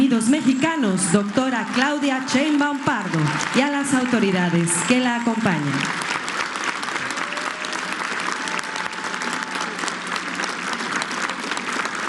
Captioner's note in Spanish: aplausos